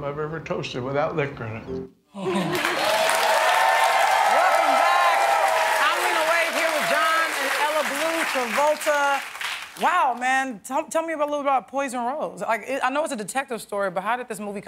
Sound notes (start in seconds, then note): 7.5 cheers and applause